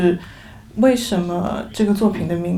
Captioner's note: Mandarin